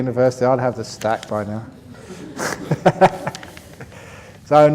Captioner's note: laughter